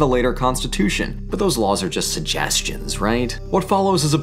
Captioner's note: sardonically